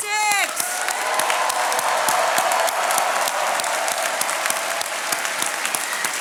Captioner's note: attendees cheering and applauding